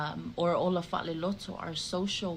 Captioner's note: speaking in the Samoan language